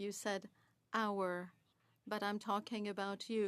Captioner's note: speaking French